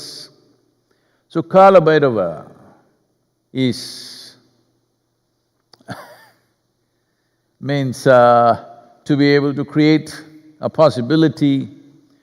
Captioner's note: laughs